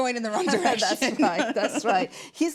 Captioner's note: laughs